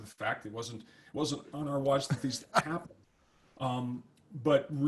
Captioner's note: laughs